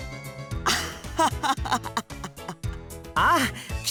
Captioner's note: awkward laugh